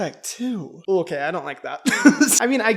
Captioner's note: laughs